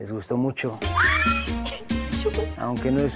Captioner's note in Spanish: Exclamaciones